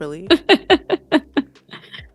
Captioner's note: laughter